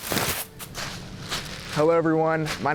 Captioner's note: pompom crunches